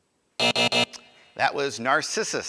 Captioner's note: buzzer